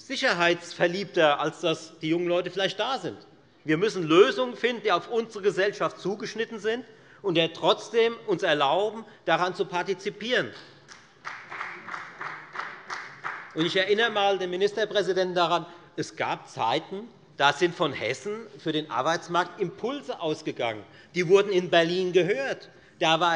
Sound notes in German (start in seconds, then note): 10.8 Beifall bei der FDP